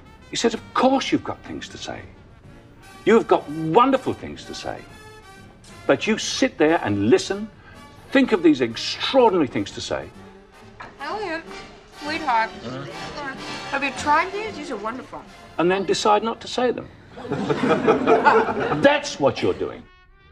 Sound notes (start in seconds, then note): 17.1 laughter